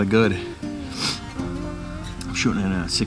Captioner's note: sniffs